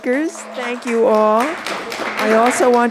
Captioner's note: applause